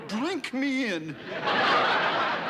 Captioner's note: laughter